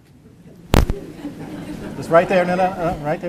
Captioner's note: audience laughter